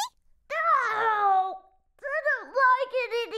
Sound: Chuckie screaming

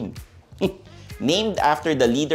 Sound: scoffs

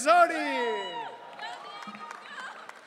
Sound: audience cheering

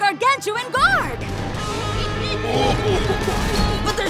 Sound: giggling

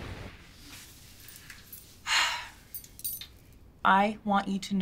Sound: sighs

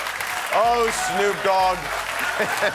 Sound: cheers and applause

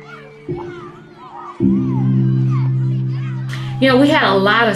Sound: children chattering

